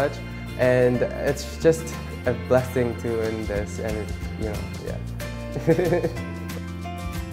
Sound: laughs

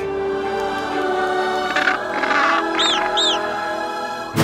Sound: squawking; barking

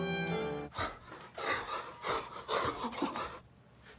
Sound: strings play; heavy breathing

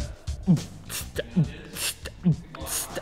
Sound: beat-boxing

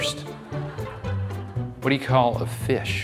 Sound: audience laughing

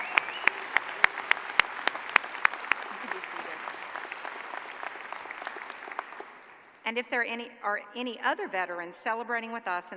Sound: cheers and applause

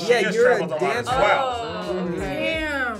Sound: group oohs

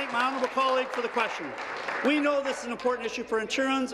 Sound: applause

